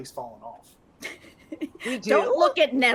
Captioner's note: people chuckling